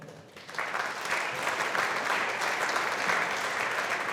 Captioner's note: audience applauding